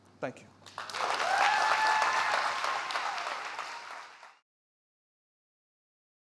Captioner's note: audience applauding and cheering